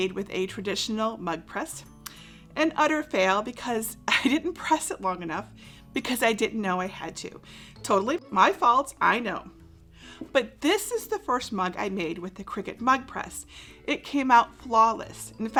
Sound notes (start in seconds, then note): 4.1 chuckles